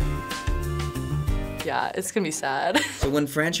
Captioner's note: laughs